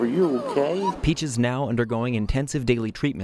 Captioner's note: nats dog whimpering